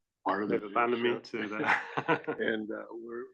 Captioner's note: laugh